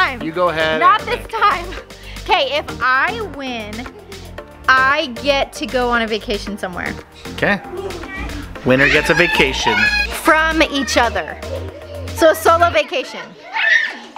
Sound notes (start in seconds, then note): 7.6 children screaming